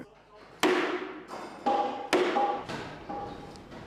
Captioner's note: hammering